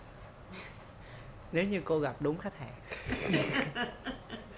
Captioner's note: laugh